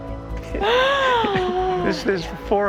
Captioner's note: gasps